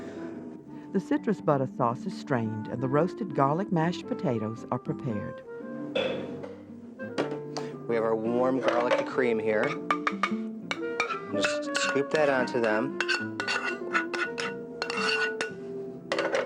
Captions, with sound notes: - [Voiceover] The citrus butter sauce is strained, and the roasted garlic mashed potatoes are prepared. - We have our warm garlic cream here. Just scoop that onto them.